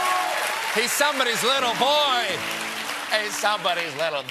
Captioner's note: cheers and applause